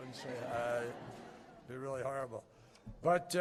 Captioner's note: laughter